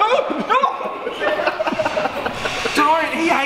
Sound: everyone laughs

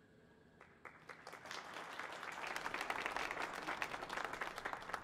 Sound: audience applauding

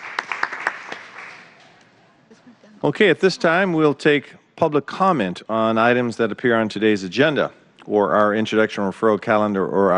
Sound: applause

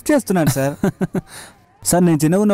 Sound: chuckles

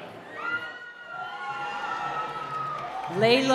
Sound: cheering

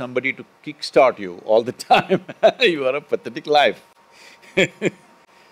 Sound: Sadhguru laughs; laughs

